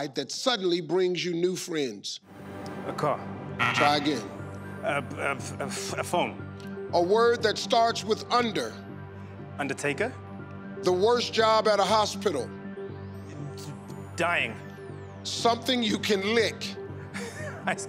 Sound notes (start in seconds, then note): 3.6 buzzer beeps